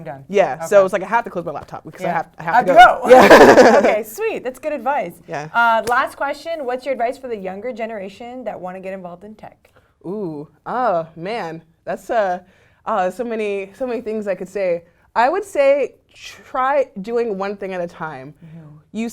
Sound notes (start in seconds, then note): 3.0 laugh